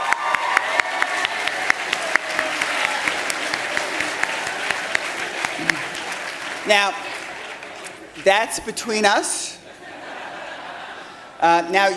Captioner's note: cheers and applause